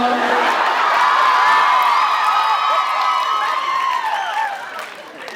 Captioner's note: laughs, cheers, applauds